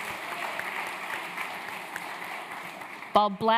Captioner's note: applause